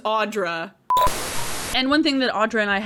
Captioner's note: beeping